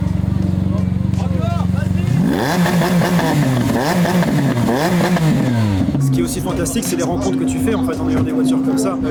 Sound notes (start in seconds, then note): 2.4 revving up